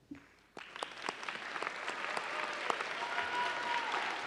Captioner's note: audience applauding